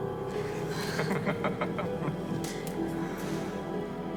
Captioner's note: dramatic piano notes; all laughing